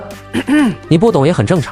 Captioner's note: ahem